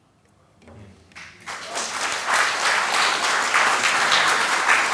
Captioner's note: applause